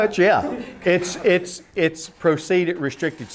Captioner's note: laughter